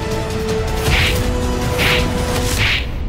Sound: slaps landing

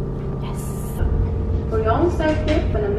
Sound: woman on the speaker in English

